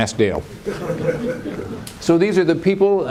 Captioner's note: laughter